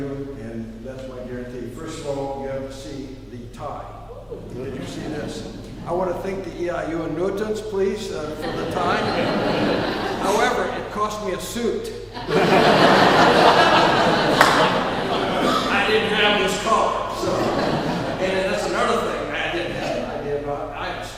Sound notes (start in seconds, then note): 12.1 laughing